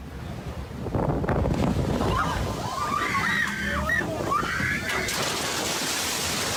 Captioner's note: lava exploding; people screaming